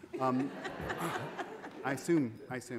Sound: audience laughing

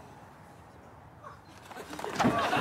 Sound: audience gasps

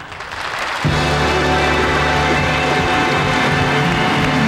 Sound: audience applauding

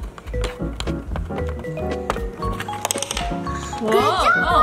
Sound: pen tapping

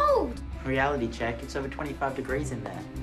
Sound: yells

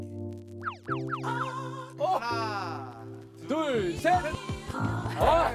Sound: hesitating, confused, fear

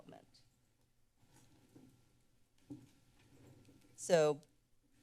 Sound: silence

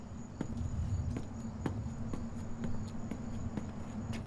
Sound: feet clunking

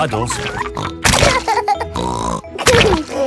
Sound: laughs and snorts

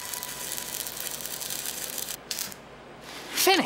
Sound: crackling

